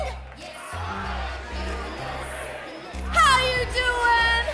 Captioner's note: crowd cheering